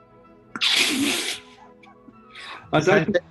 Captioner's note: sniggering